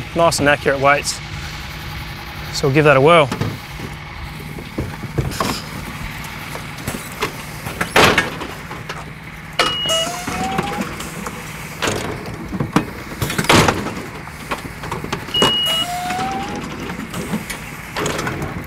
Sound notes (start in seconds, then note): 8.1 loud banging; 9.7 beep; 13.7 loud banging; 15.3 beep